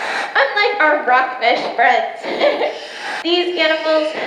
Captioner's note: laughs